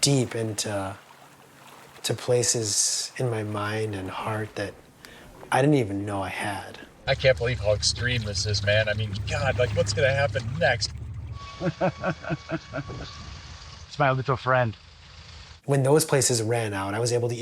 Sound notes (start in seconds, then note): 11.5 laughing